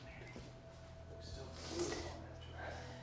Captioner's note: Abigail sniffling